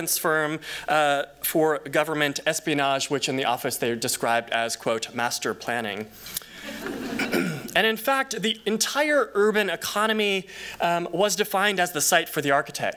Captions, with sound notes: firm for government espionage-- which, in the office they described as, quote, "master planning." [laughter] And in fact, the entire urban economy was defined as the site for the architect.